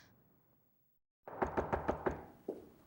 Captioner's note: knocking at door